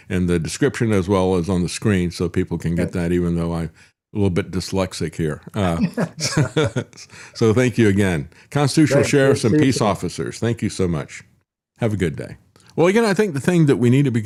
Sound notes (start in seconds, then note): 5.5 laughs